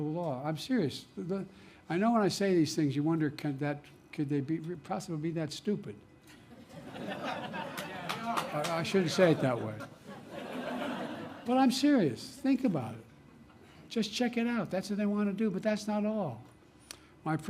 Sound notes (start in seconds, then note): 6.4 laughter